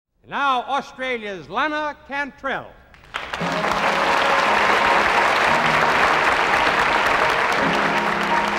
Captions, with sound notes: - NOW, AUSTRALIA'S LANA CANTRELL. (AUDIENCE APPLAUDING) (MELLOW PIANO MUSIC)